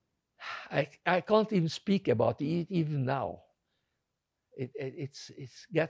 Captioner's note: sighing